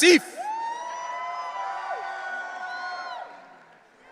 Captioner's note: audience cheering